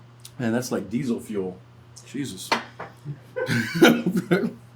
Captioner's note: laughs